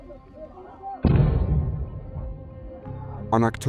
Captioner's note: explosion